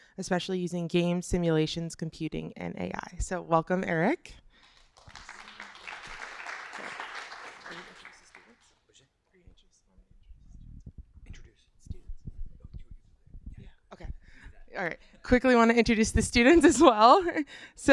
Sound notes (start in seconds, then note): 4.6 applause